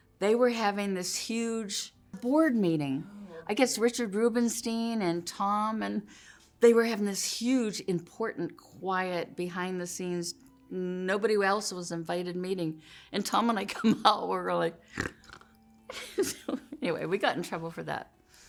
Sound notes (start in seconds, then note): 14.9 snorting; 16.1 laughing